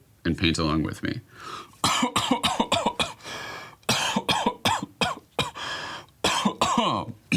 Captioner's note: coughing; clears throat